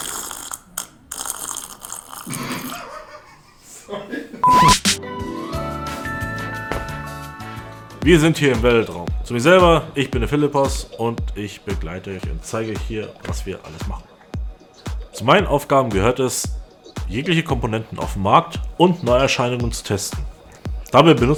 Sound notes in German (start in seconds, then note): 2.4 gelächter